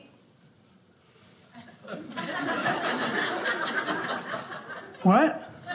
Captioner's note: audience laughing